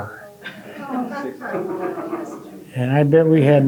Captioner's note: audience laughing